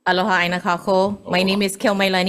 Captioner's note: speaks foreign language